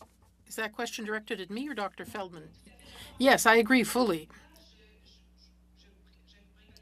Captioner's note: speaking French